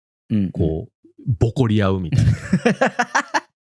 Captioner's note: laughs